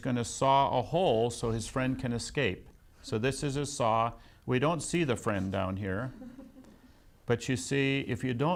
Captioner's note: laughs